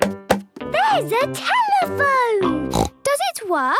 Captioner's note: snorts